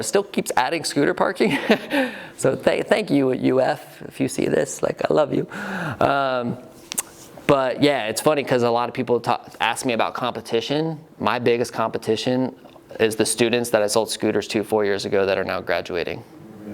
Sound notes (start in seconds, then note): 1.5 laughs